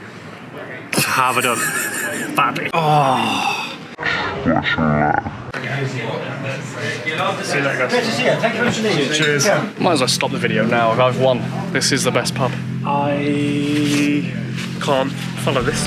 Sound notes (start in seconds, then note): 0.9 laughs; 8.4 in Irish accent